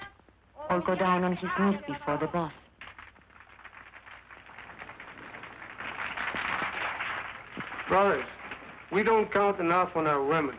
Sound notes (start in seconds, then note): 3.3 crowd applauding